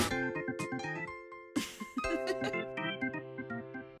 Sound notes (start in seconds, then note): 1.5 woman laughs